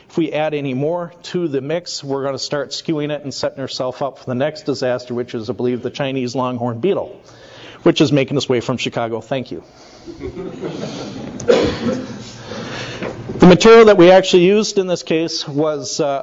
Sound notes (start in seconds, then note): 10.1 audience laughing